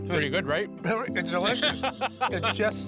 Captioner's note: laughing